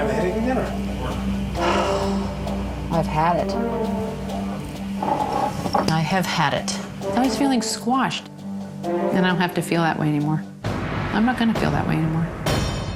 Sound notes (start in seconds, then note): 1.6 sighs loudly